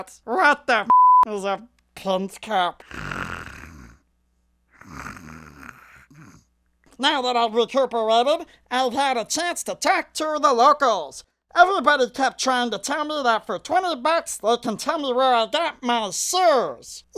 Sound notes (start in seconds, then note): 2.8 snoring